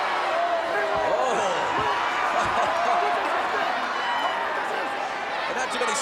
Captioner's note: chuckles